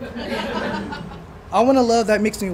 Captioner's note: laughter